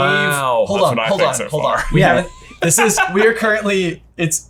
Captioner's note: laughs